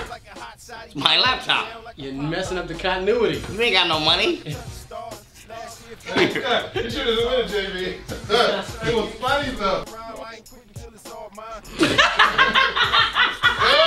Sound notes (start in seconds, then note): 6.9 voiceover; 11.5 laughing